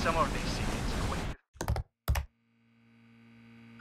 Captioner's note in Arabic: صوت نقر على مفاتيح لوحة المفاتيح